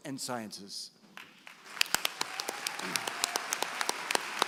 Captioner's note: applause